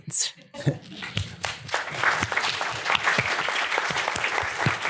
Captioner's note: applause